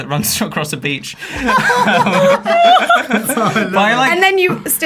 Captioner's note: laughing